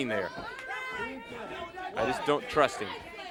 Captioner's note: crowd chatter